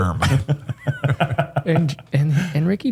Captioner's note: laughter